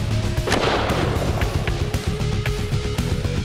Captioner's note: gunshots